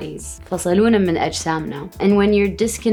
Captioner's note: speaks Arabic